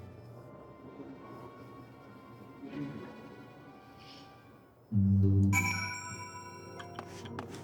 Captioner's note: bell ringing